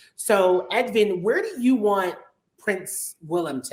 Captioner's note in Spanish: none